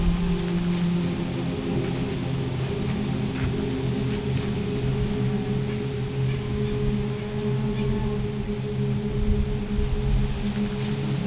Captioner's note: sound of light wind, soft music